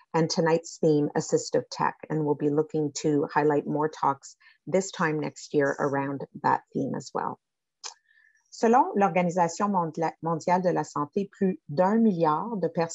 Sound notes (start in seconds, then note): 8.8 French speaking